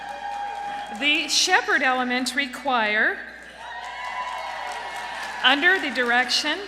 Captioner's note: applause; applause